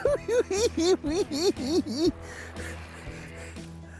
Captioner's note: cackling